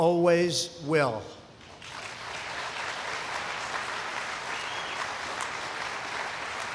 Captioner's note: applause